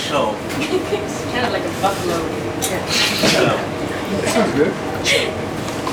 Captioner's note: laughs